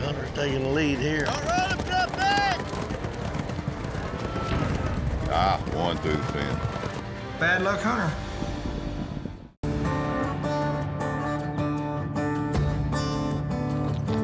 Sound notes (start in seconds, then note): 0.3 hoofbeats